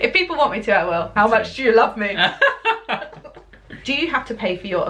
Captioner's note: laughter